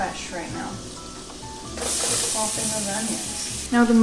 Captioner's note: onions sizzling